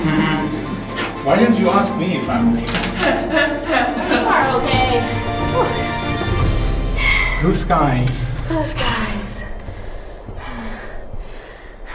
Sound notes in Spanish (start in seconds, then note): 2.6 Ríe